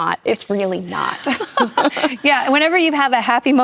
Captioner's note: laughter